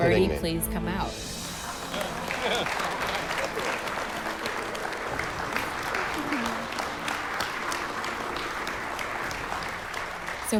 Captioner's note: applause